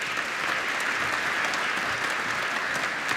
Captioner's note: applause